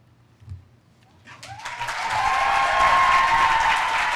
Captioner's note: applause